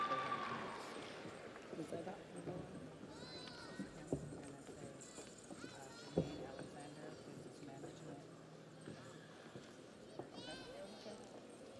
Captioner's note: audience cheers; audience applauds